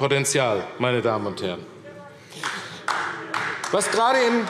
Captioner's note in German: Beifall AfD